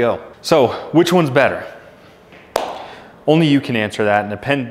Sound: claps hands

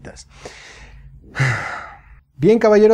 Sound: sigh

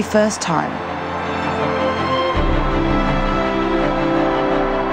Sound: crowd cheers

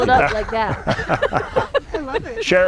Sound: laughter

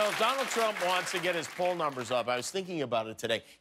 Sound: cheers and applause

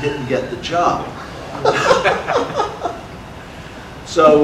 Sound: audience laughter

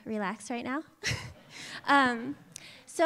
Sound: laughter

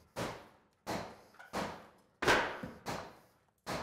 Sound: banging

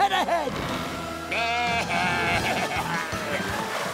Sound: baaing

